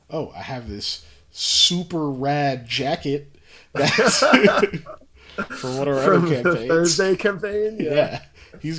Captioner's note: laughs